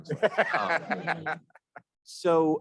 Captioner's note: laughing